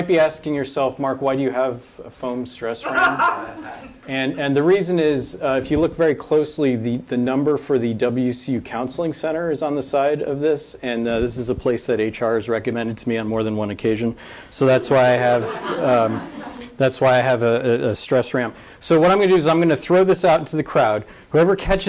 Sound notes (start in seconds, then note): 2.8 audience member laughs; 14.6 audience laughs